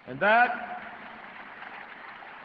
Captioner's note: applause